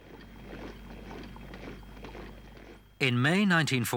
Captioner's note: boots thudding